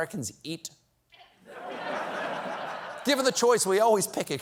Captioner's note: laughter